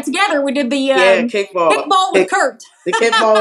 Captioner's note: laugh